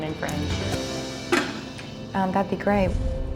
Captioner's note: porcelain bowl clanks